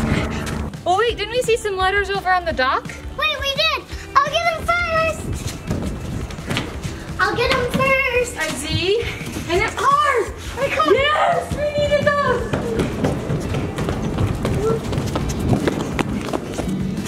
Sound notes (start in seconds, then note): 5.0 running feet